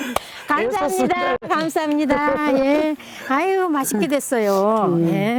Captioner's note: laughs and clapping; speaking foreign language